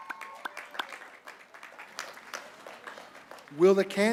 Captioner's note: applause